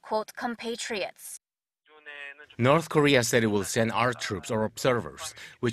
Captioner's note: Korean